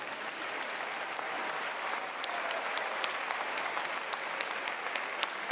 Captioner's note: applause